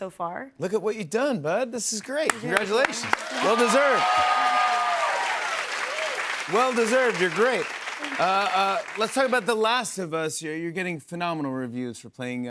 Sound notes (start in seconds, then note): 4.0 cheers and applause